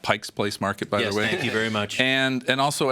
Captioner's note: chuckles